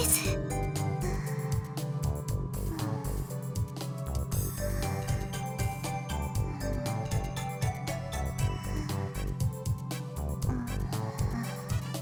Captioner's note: whisper; snooooooze